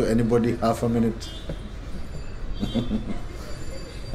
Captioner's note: laughing